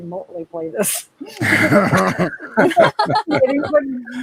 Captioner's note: participants laugh